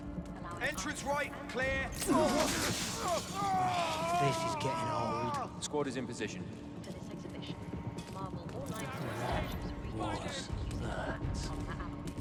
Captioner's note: groaning and screaming